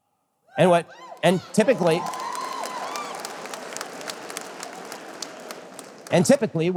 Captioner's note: audience applause